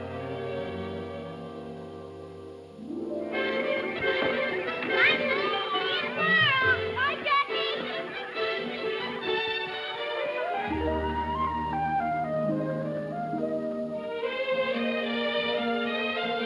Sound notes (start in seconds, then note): 3.1 cheerful music; 3.1 children yelling; 11.1 soft music